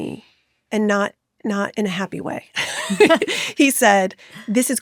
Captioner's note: chuckles